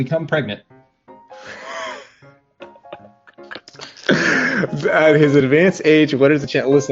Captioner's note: lauging